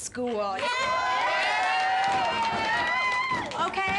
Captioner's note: students cheering